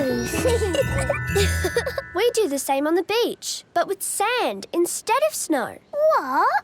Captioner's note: laughing; giggling